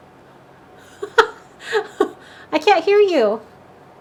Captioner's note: laughs